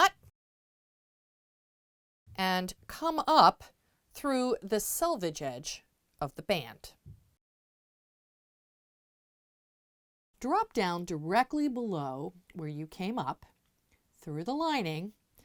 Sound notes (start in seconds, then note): 0.3 no Sound Present; 7.3 no Sound Present